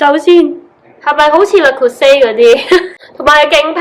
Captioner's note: laughs